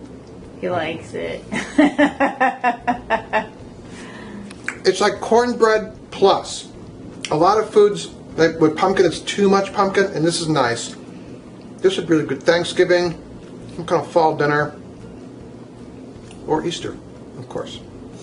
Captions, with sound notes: He likes it. (woman laughing) - It's like cornbread plus. A lot of foods with pumpkin, it's too much pumpkin. This is nice. This would be good at Thanksgiving. Some kind of fall dinner. Or Easter, of course.